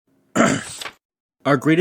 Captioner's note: ahem